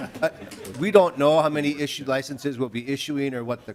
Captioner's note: laughter